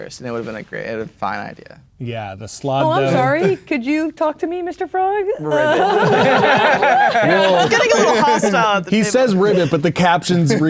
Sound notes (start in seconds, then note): 5.5 players laughing